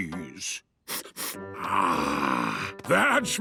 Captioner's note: sniffs